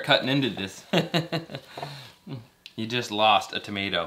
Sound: laughs

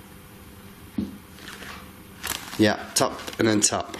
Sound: tap

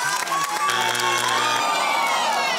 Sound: loud buzzing; groaning

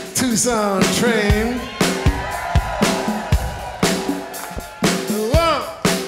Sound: audience cheering

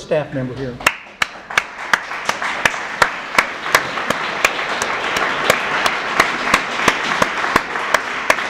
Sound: applause

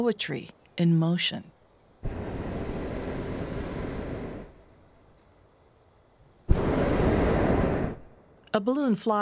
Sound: balloon burner firing

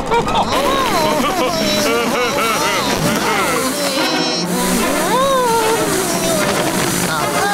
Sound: laughing

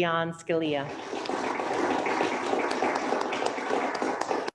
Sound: applauding

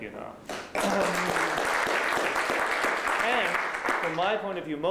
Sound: applause

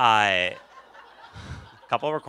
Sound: laughter

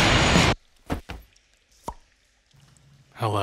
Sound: dramatic rock music; pops

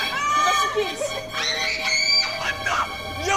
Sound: screaming

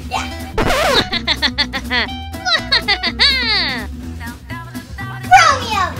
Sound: Romeo laughing sarcastically

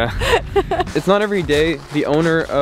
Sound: laughing

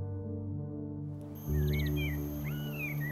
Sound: birds chirping

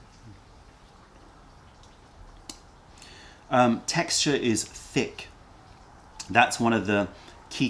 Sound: sips tea

